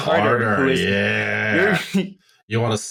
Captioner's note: laughs